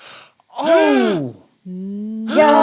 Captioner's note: gasps; laughs